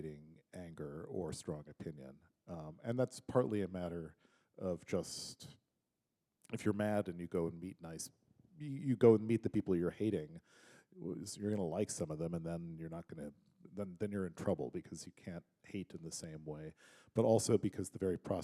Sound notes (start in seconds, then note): none